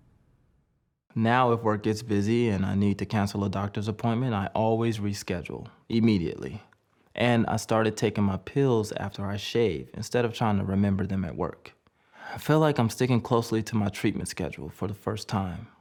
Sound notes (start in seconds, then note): none